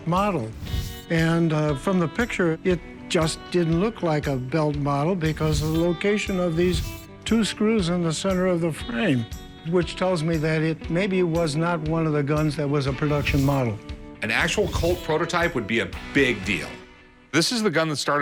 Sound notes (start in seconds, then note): none